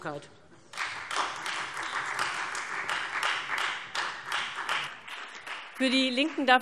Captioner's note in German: Beifall Freie Demokraten